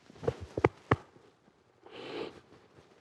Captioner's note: sniffles